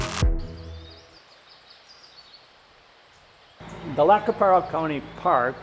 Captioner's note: birds chirping